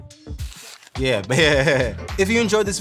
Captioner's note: laughing